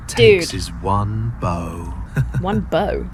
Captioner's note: Satan laughs